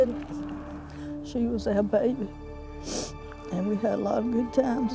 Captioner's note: sniffles